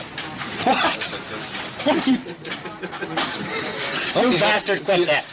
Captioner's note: laughs